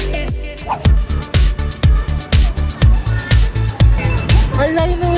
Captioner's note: foreign